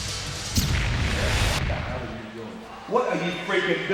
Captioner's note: explosion blasting